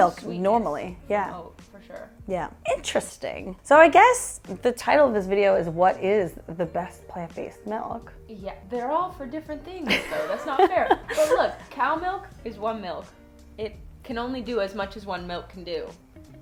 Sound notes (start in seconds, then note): 9.9 laughs